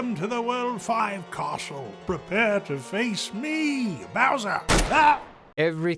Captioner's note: gunshot